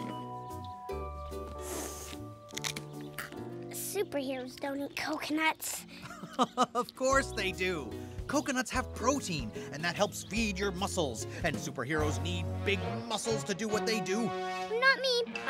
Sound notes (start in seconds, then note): 1.4 sniffs; 1.5 crunches